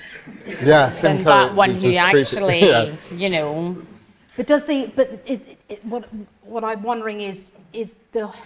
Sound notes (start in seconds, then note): 0.2 audience laughs